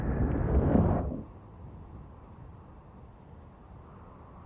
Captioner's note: insects buzzing